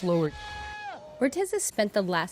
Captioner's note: yelling